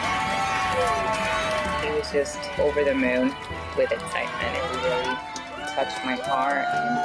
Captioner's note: cheers and Applause